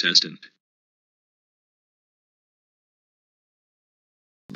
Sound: even more silence

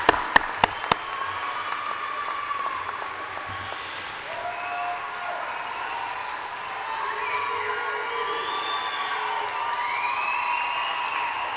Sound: applause

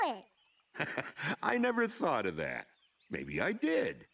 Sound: chuckling

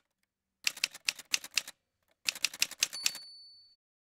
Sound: typewriter sounds

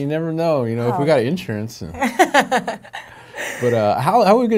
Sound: laughing

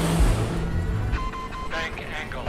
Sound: warning beeping

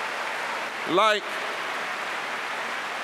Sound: applause

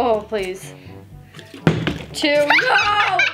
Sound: bottle landing

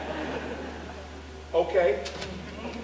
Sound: audience laughing

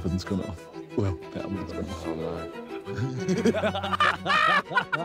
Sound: all laughing

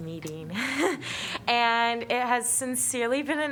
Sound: laughter

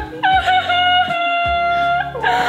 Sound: crying

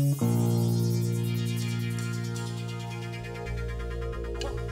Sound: oscillating high pitched electronic sound continues; tick, tick of drumsticks

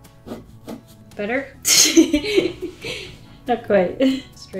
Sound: laughs

